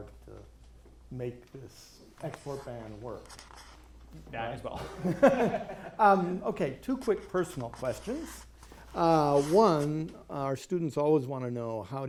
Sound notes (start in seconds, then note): 4.8 laughing